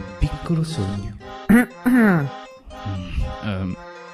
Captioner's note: coff coff